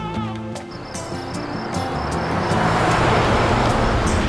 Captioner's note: crickets chirping